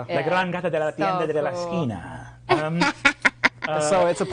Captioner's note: laughing; speaking foreign language